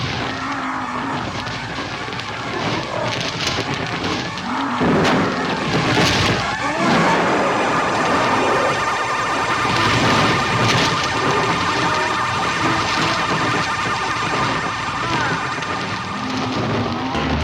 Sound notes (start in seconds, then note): 9.8 flames crackling